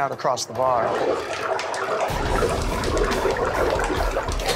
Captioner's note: gurgling